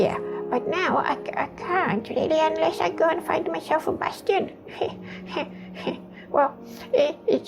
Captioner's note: awkward chuckle